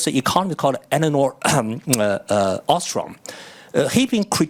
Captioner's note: coughs